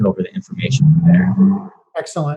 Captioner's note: car Engine Roars